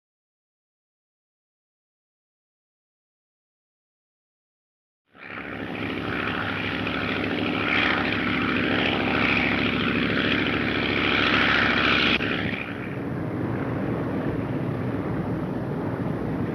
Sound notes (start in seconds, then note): 5.9 airplane engine roaring